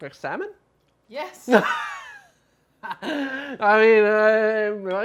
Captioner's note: laughing